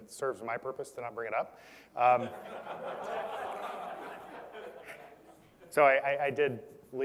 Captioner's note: laugh